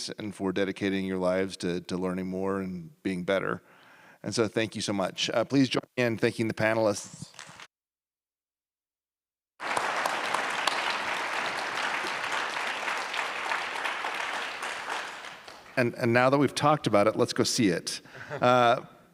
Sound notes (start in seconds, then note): 9.6 applause